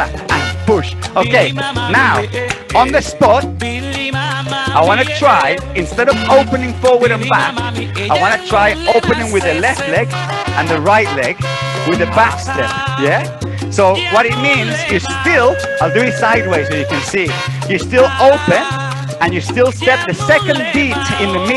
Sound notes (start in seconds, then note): 1.7 clap, clap